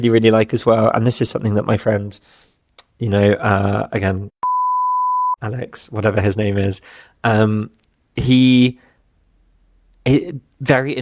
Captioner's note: beep